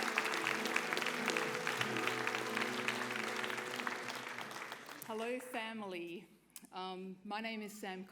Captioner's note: applause